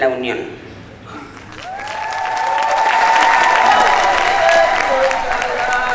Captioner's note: people cheer; ritual music